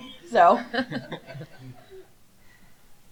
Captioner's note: laughter